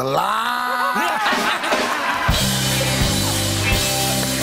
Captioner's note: laughter